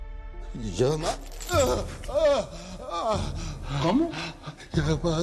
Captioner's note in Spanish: Grita